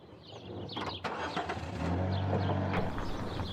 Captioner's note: engine Starting